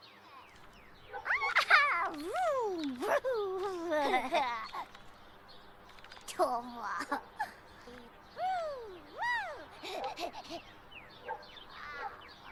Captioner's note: Luna laughs